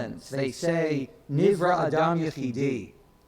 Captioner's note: speaks in foreign language